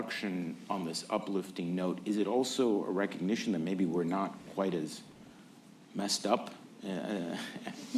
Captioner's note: laughter